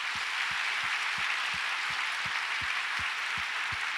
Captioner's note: audience applauds